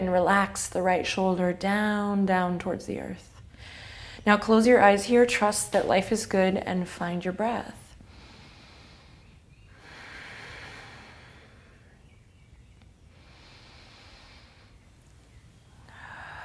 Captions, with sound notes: relax the right shoulder down, down towards the earth. Now close your eyes here, trust that life is good and find your breath. (breathes deeply) (birds chirping)